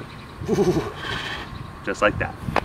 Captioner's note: Derek snuffle; Melita snuffle